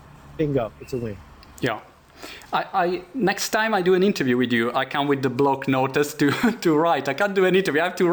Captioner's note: laughter